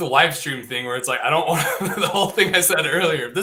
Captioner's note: laughing